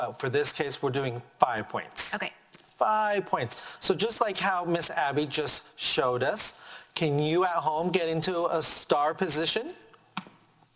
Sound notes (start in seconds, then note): none